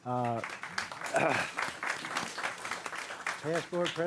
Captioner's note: clapping